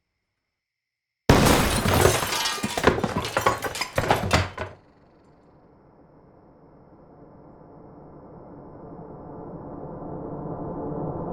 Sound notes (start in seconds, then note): 1.2 gunshot; 1.3 glass shatters